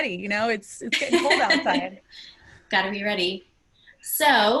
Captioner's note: laugh